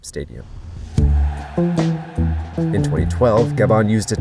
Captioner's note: crowd cheering; lively music